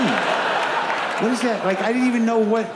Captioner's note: audience laughs